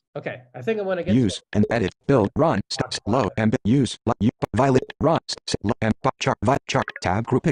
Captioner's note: voiceover